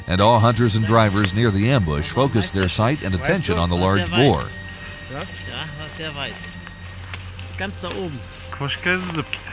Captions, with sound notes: and all hunters and drivers near the ambush focused their sight and attention on the large boar. [speaking in German]